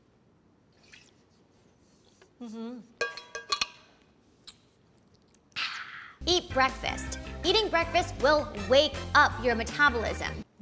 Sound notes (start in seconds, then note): 0.9 water sloshing; 3.0 metal cap clanging